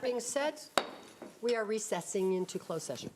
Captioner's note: gavel sounds